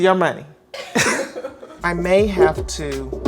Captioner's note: both laugh